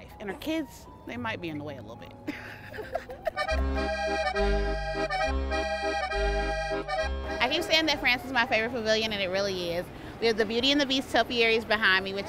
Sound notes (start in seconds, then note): 2.3 laughing; 3.6 upbeat music